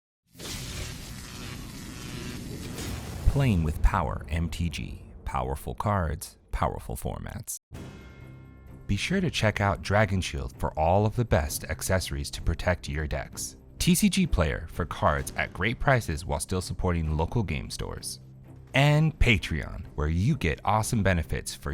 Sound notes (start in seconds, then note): 0.4 electric buzzing